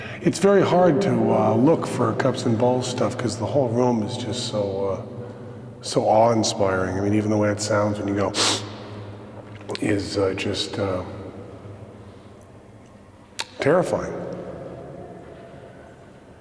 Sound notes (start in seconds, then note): 8.3 sniffs